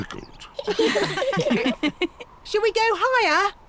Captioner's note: all laughing